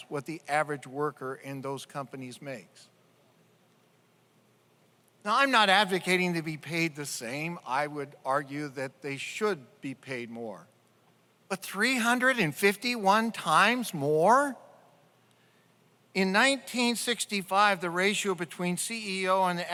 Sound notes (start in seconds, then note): none